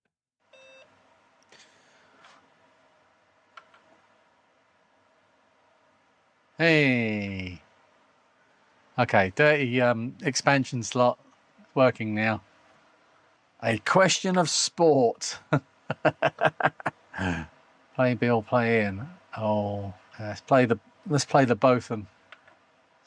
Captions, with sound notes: (Beep) Hey. Okay, dirty expansion slot working now. A question of sport. (Laughs) Play in, be all play in. Let's play the both of them.